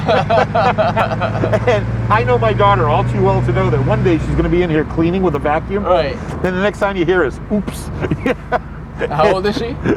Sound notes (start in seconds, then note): 7.6 laughs